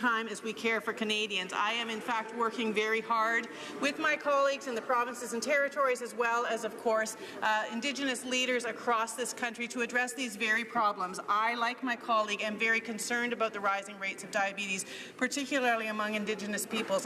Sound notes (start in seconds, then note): none